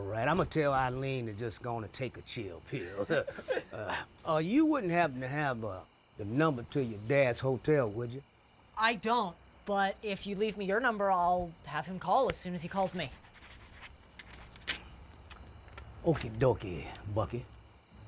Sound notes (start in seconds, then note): 12.7 pen scribbling; 14.8 paper tearing